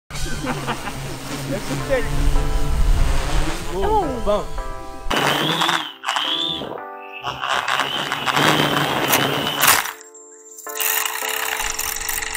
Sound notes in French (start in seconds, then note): 0.1 bruits de drone en vol et qui s'écrase